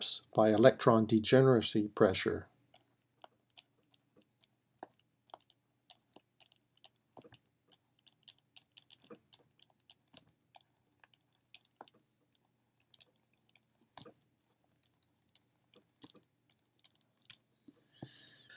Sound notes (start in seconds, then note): 2.4 typing